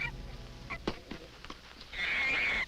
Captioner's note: monkey shrieking; fruit thwacking; monkey shrieking